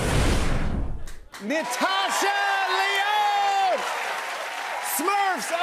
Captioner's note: cheers and applause